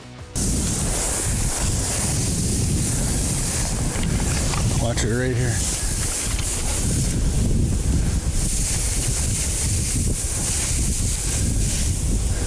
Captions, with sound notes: (grass rustling, wind blowing) Watch her right here. (grass rustling, wind blowing)